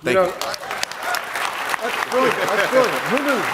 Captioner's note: applause